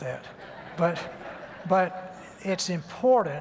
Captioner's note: light laughter